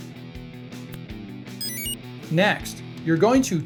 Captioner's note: enter chime